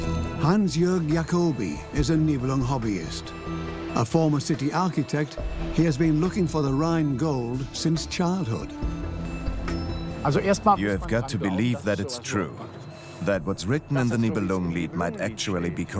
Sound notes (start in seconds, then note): 10.4 in German; 11.5 dubbed in English